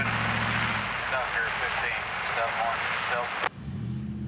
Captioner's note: phone ringing